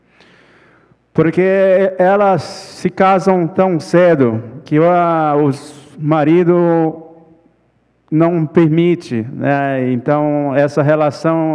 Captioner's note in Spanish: ponente habla en portugués